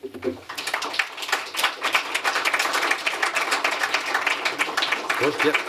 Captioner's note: applause